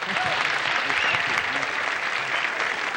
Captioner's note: audience cheers